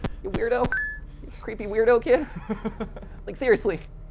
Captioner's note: laughter